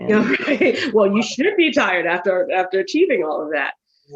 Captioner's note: laughs